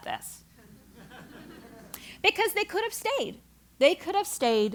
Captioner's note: laugh